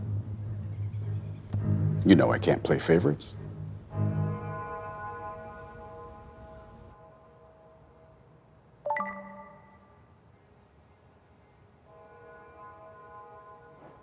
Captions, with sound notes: - You know I can't play favorites. (phone chimes)